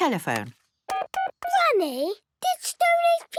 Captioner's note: dial tones beeping